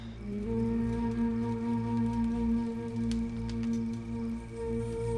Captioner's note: fire crackling